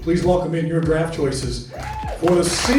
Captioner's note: crowd cheering